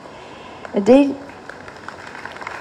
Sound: applause

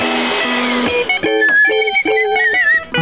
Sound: whistling

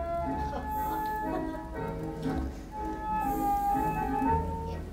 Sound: people in audience laugh

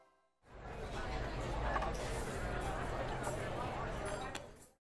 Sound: gente hablando

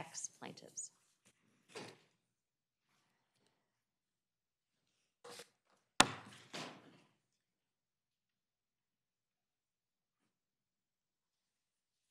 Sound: gavel

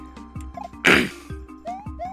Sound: clears throat

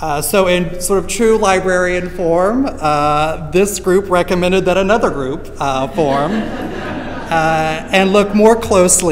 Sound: laughter

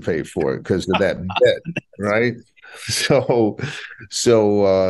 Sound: laughing

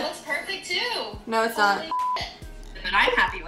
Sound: beep

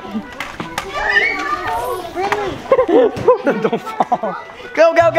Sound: children screaming

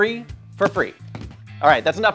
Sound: body thuds

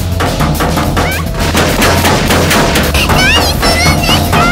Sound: banging from inside box; gunfire

